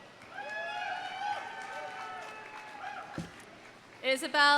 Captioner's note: audience cheering; audience applauding